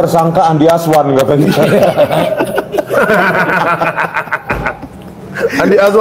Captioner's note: laughs